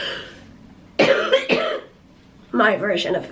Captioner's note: coughing